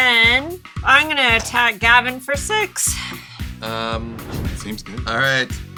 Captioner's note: sighs